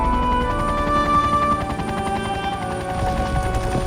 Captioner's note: helicopter